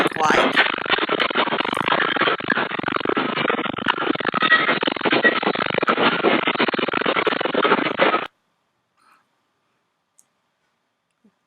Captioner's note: static noise from camera